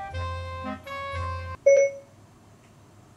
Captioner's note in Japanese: Siriの起動音